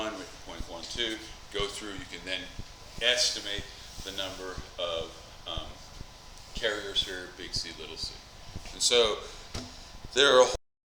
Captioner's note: mic cuts out